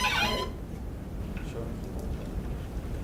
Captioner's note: squeaking